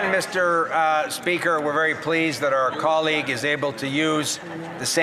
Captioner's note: some Applause